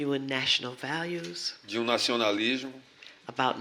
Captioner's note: speaking portuguese